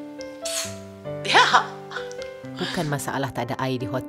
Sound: laugh

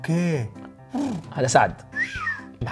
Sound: whistles

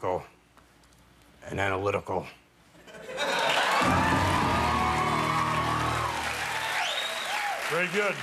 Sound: cheers and applause

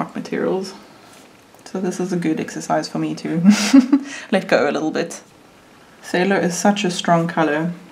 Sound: laughs

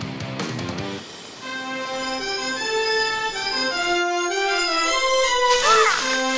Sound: blowing horn

